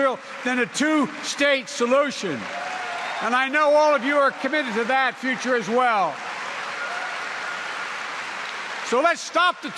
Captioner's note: applause